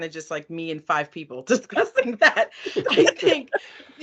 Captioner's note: laughing